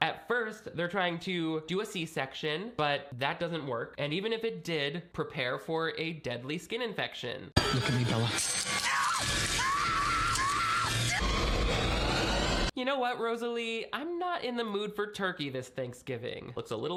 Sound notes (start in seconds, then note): 8.8 Bella screaming; 9.1 dramatic music